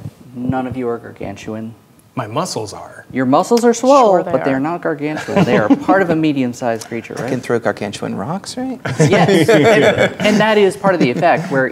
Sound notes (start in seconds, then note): 3.6 sarcastically; 5.2 laughing; 8.8 laughing